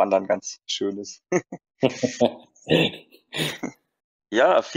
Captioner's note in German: lachen